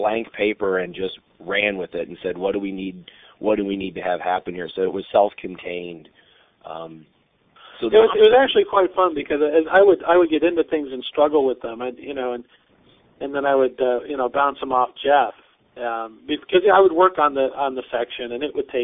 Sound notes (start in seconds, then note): 5.2 laughing